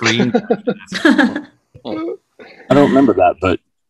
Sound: all laughing; all laughing

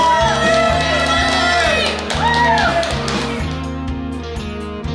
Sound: group cheers and claps

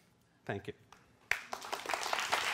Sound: applause

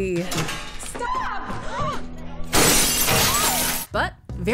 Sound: clinks

